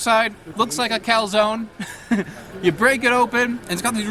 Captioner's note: laughs